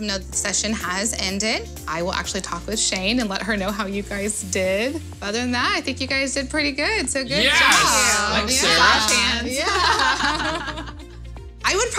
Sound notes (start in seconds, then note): 7.6 clapping; 10.6 laughing